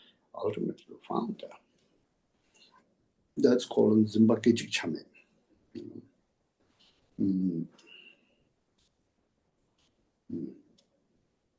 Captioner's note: tibetan